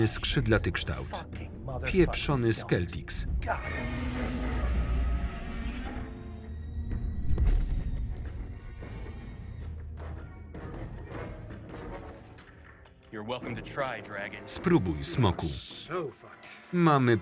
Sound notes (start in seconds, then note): 3.5 dragon shrieking and landing